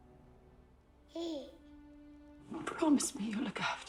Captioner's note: baby gurgling